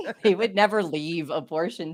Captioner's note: laughs